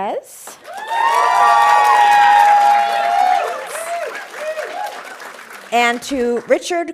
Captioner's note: audience cheering and applauding